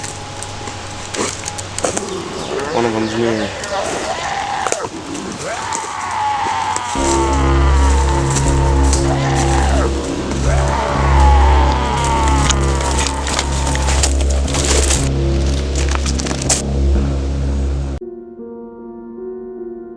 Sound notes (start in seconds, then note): 1.3 zombie Groaning In the Distance; 3.9 groaning Continues; 8.4 groaning Intensifies